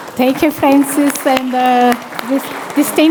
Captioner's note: applause